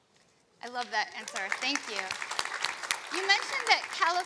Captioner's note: audience applauding